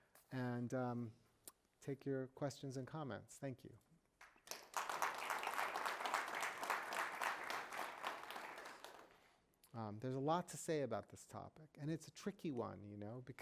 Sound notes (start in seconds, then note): 4.2 audience applauds